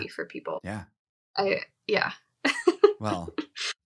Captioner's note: chuckling